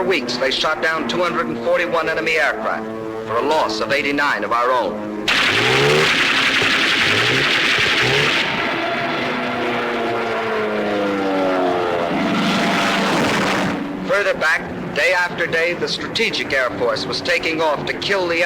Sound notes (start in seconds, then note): 5.2 aircraft guns firing